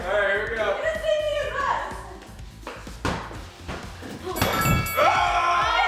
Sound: excited chatter; excited yelling

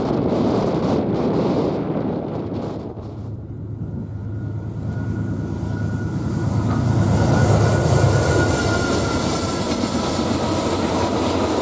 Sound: train

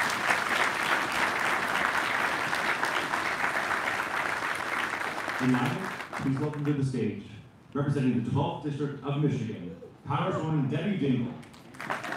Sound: applause; applause

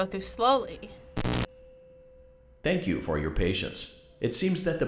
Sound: static buzz

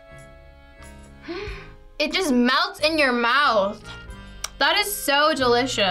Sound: gasps

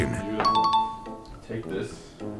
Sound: chimes

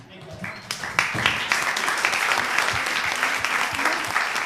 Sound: applause

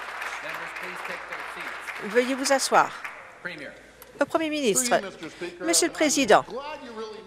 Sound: applause

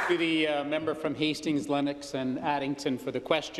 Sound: applause

